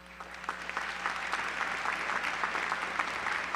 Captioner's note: applause